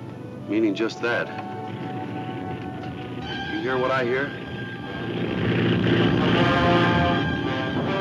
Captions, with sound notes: - Meaning just that. (airplane engine sputte) You hear what I hea? (suspenseful music)